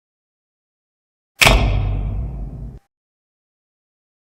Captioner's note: old-fashioned spotlight clunking on